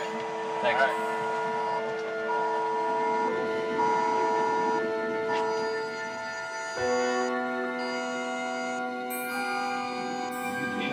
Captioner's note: phone alert toning